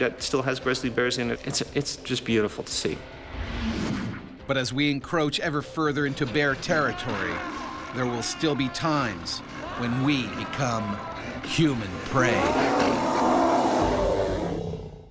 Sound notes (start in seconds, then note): 4.7 voiceover; 11.9 bear growling